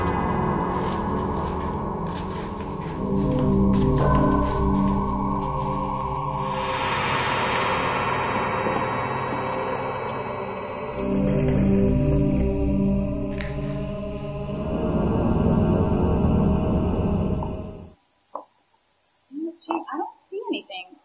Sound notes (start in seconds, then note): 0.5 shuffling noises; 4.1 heels on concrete; 8.5 gurgle